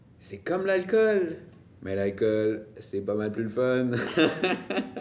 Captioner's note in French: rires